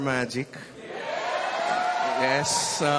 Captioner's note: audience cheers